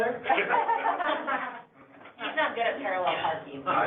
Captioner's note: all laughing